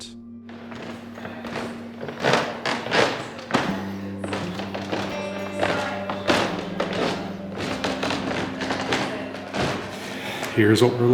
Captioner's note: creaking of old wooden stairs